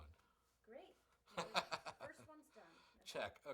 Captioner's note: laughs